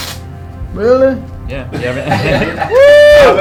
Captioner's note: laugh